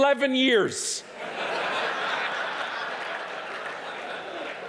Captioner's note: audience laughing